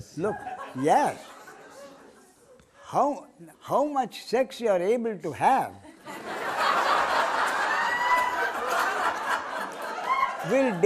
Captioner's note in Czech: smích